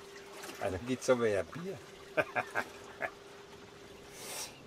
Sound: laughing

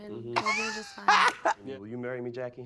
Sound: blonde Women giggle

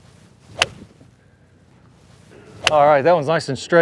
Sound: ball thunks

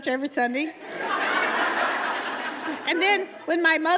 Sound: laughter

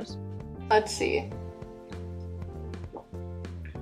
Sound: sips

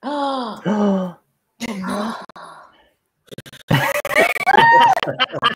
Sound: gasps

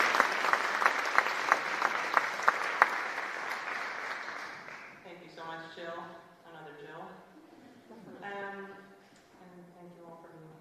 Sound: applause

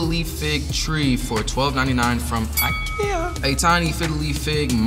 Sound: bell dings

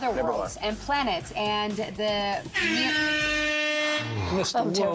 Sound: buzzer sounds

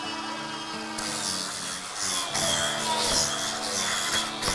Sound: saw whirring

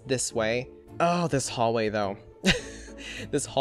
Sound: chuckles

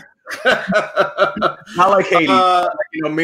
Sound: chuckling

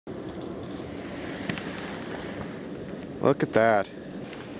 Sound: fire crackling

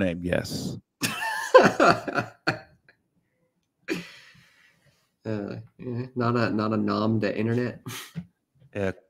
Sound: laughs

